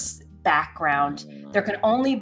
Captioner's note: Butters growling